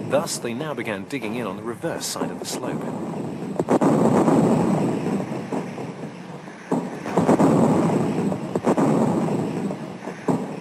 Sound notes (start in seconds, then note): 2.8 bombs exploding